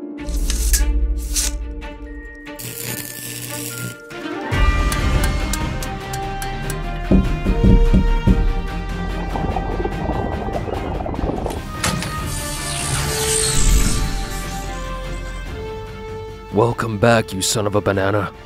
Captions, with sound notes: (electricity whirring) (upbeat instrumental music) (liquid bubbling) (electricity whirring) Welcome back you son up a banana.